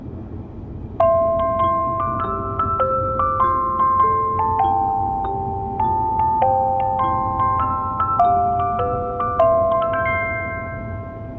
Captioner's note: onboard Chime